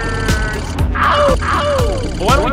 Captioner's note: howl